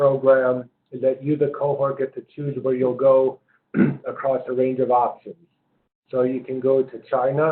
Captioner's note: cough